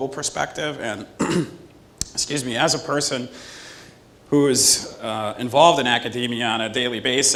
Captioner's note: cough